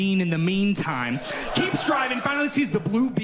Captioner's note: audience laughing